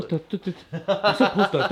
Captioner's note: laughing